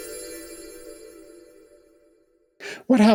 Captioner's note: chimes